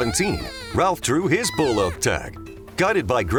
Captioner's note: elk call chirping